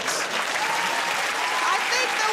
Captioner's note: cheers and applause